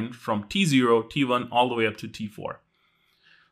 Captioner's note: none